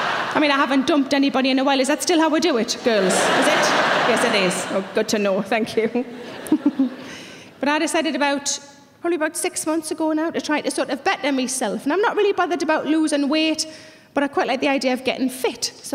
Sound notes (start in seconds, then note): 0.0 audience laughing; 2.5 audience laughing; 6.1 laughs